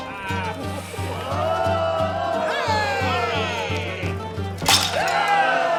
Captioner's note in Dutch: begunstigers juichen; mannen juichen